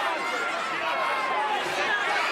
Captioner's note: crowd yelling